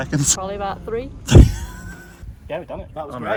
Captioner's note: laughs